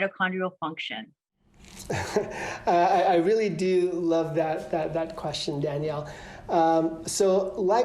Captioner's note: laughter